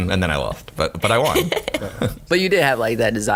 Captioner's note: laughing